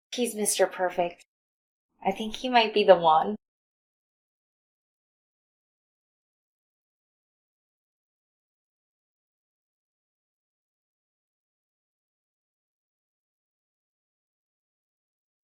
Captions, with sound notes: He's Mr. Perfect. I think he might be the one. [long intentional silence]